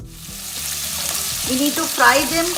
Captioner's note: onions sizzling